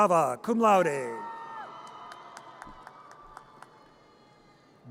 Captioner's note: audience cheers